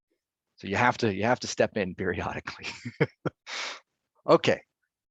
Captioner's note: laughing